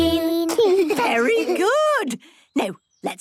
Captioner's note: children giggling